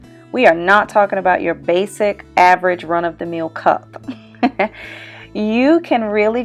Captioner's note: laughing